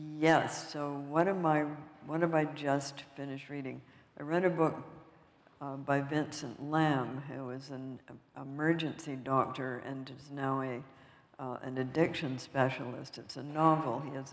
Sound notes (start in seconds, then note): none